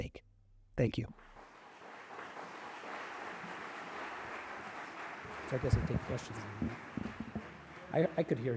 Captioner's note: applause